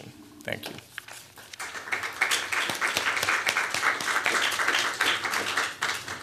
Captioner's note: applause